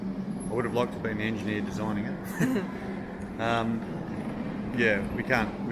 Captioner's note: laughs